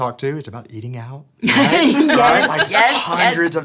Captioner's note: laughs